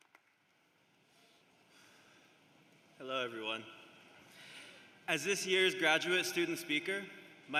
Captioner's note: applause